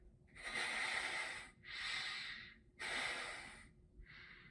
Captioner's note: nose sniffing